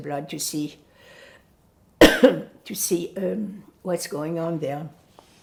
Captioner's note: coughing